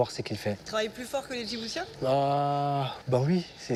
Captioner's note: interviewer speaking foreign language